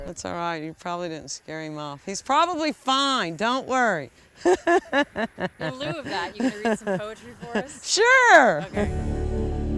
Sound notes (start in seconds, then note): 4.4 laughs